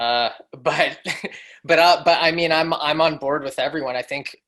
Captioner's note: laughs